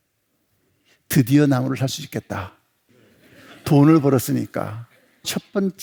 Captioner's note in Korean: 웃음